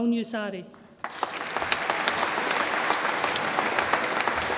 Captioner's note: audience applauds